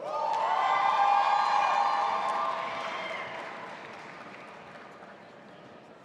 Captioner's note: audience applauding and cheering